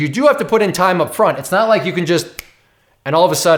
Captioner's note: snaps fingers